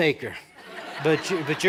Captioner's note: laughter